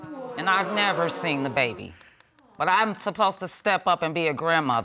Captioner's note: audience groaning